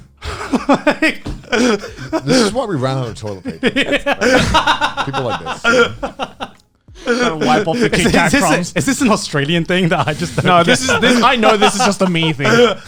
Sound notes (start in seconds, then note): 0.2 laughs